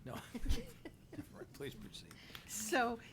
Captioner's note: laughing